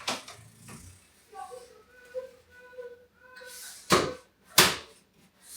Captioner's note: people chattering faintly